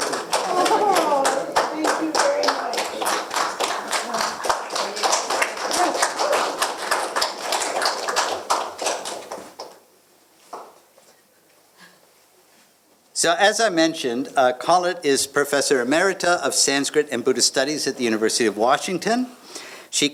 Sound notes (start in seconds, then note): 3.2 applause